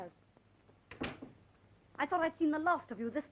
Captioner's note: door closing